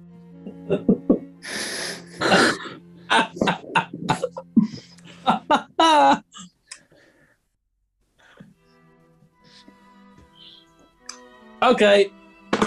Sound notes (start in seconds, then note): 0.2 giggling; 2.3 laughter